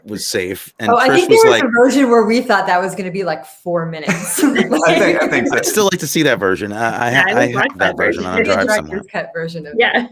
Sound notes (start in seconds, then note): 4.1 everyone laughing